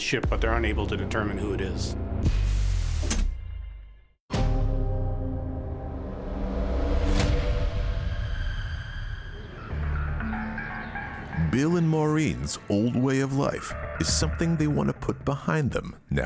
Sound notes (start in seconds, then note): 2.6 static buzzing; 4.5 tense dramatic music; 9.6 pensive music